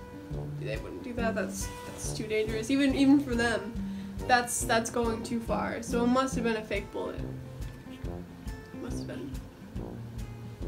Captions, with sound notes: they wouldn't do that, that's too dangerous. Even for them, that's–that's going too far. So it MUST have been a fake bullet. [quietly] It must have been.